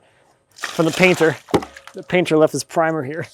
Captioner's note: water splashes